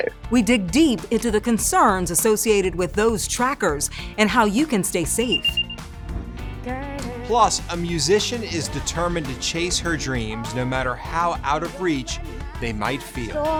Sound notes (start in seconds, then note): 5.1 tracker beeping; 6.4 lighthearted music